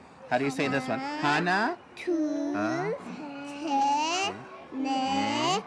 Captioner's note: children count in korean